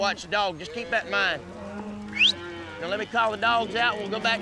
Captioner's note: whistling